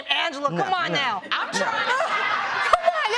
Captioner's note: laughter